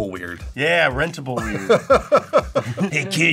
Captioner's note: laughs